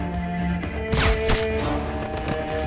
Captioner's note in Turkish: Silah sesi